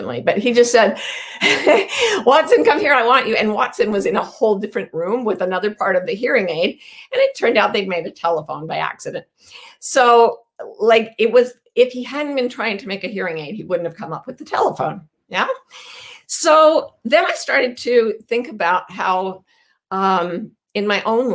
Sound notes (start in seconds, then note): 1.1 chuckles